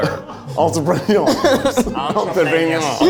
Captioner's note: in French accent